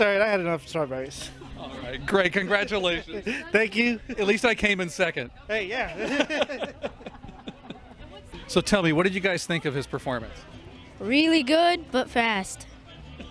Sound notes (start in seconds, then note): 5.8 laughter